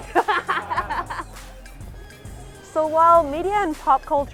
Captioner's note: laughing